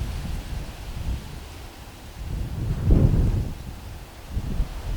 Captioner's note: wind blowing